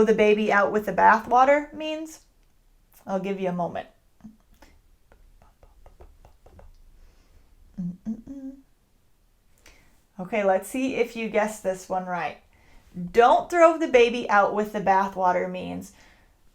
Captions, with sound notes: the baby out with the bathwater means? I'll give you a moment. (rhythmic mouth noises) (humming) OK, let's see if you guessed this one right. Don't throw the baby out with the bathwater means